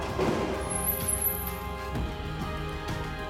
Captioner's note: brakes squealing